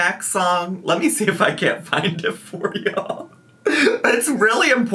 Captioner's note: laughs